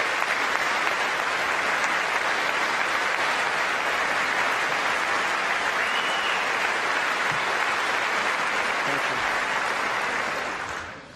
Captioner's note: applause